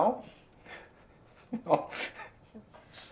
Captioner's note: giggles